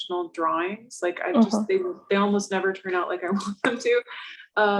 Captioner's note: laughs